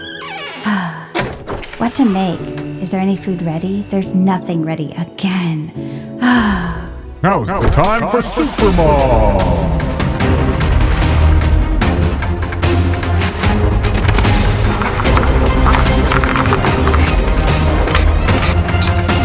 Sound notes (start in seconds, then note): 0.0 door squeaks; 6.2 sighs; 10.4 dramatic music; 15.0 knife rattles